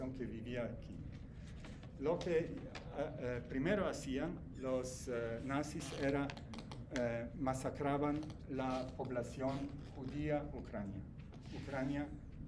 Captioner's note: German